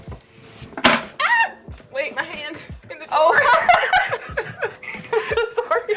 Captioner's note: both laugh